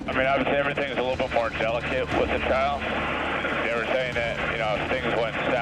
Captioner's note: chattering into radio